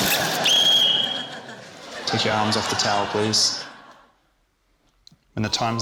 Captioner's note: whistle trills